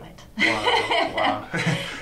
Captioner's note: laughing